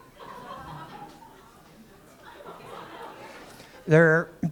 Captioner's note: laughter